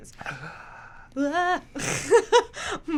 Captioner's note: gasping; laughs